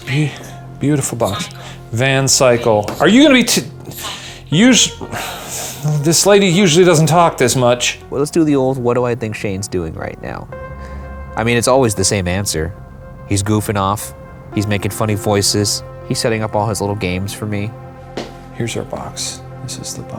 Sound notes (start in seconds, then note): 3.8 sighs